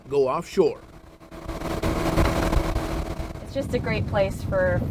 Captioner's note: engine revving